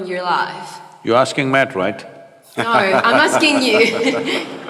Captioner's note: Matthew laughs